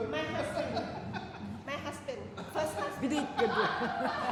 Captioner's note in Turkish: kahkaha